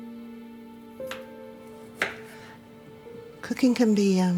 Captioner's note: knife chopping